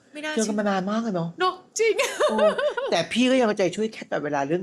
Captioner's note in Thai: เสียงหัวเราะ